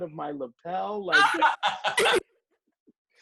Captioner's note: laughter